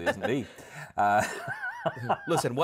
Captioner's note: chuckles